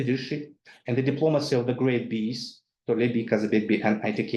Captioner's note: speaks in foreign language